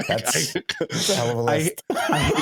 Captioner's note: laughs